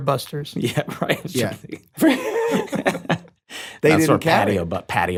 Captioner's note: laughs